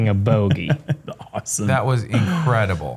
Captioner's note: chuckles